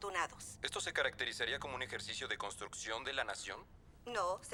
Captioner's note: voiceover